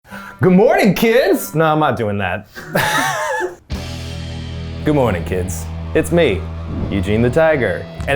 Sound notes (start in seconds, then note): 2.6 group laughing; 3.6 upbeat rock music